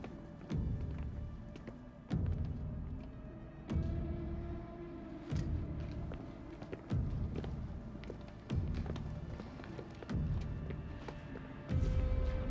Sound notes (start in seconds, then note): 0.2 tense music; 5.1 footsteps walking away